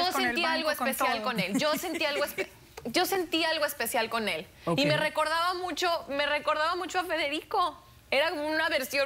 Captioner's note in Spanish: Risas